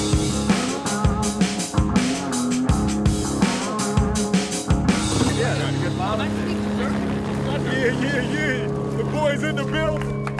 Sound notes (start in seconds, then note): 5.2 chatter